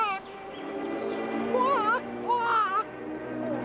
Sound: squawking in alarm

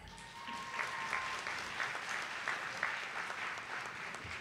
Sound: audience applauding

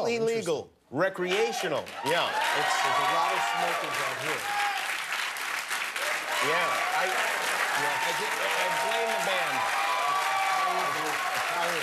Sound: cheers and applause

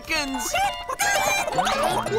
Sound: clucking

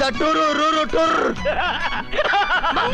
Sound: laughs

